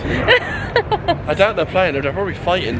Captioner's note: laughs